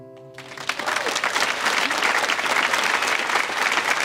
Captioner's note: audience applauds